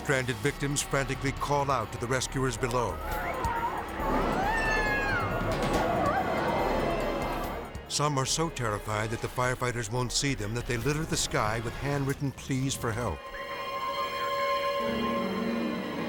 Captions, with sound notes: Stranded victims frantically call out to the rescuers below. (victims screaming) Some are so terrified that the firefighters won't see them that they litter the sky with handwritten pleas for help. (uneasy music)